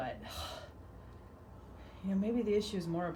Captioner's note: exhales forcefully